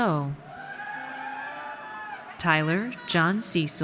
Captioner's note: audience cheers